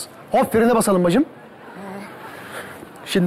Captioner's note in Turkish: Gülme efekti